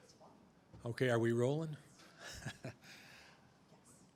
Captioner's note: chuckles